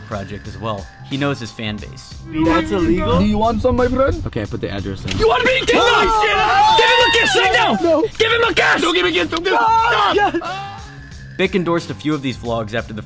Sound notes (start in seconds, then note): 5.3 both scream; 5.5 driver yells threats